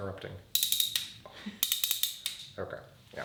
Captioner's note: tool clicking